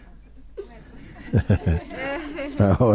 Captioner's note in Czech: smích